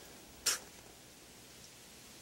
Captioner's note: spits